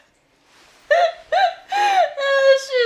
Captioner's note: laughing